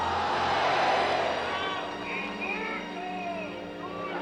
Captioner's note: voices from the crowd